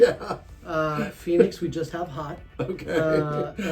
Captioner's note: laughing